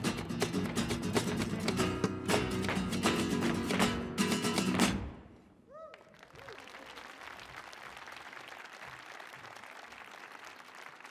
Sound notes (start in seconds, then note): 2.5 footsteps stomping rapidly; 5.7 people cheering; 5.9 audience applauding